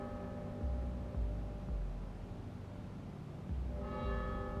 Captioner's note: cathedral bell ringing